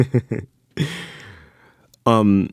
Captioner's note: laughter